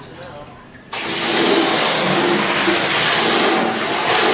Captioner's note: water crashing